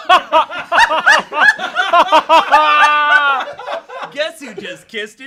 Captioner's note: everyone laughs